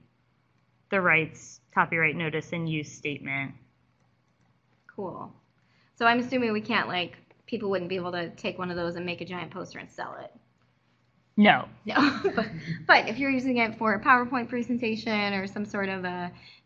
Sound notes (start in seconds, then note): 12.0 laugh